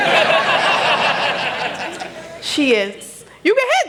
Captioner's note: laughter